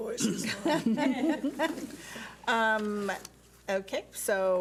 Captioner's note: laughing